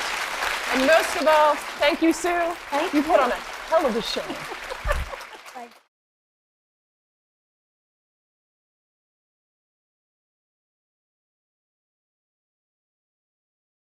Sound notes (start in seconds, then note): 4.2 laughter